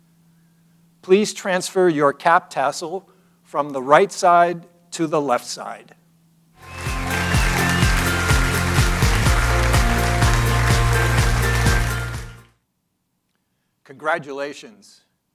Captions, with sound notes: Please transfer your cap tassel from the right side to the left side. (upbeat music) (audience applauding) Congratulations.